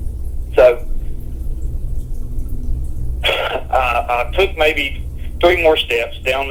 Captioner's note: sighs